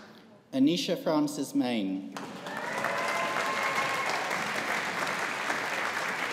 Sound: audience applauding

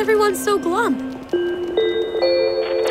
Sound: bell chiming

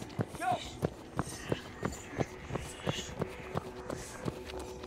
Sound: person shouting

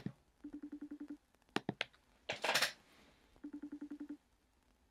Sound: phone ringing

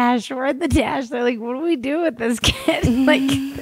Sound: laughs

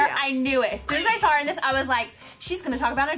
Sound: laughing

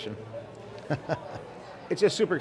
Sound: chuckles

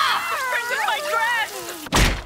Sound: screaming

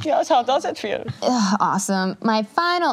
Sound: imitates German accent

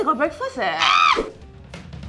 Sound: shrillll

